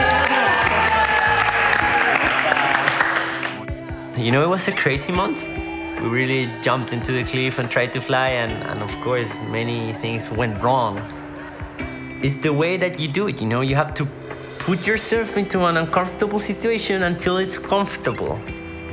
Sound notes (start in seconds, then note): 0.0 cheering & applause